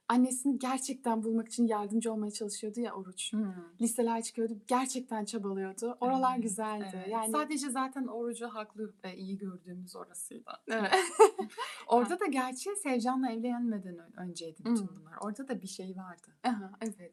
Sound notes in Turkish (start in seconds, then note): 10.8 kahkaha